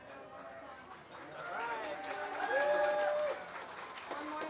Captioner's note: cheers and applause